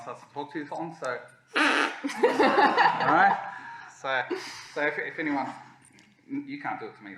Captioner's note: duck call